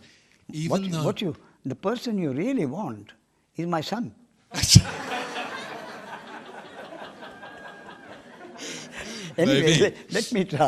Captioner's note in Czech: smích